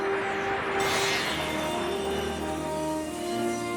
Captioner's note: tinkling